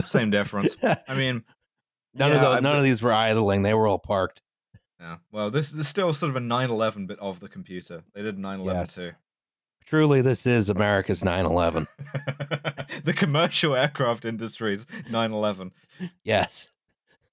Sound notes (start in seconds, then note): 11.6 laughing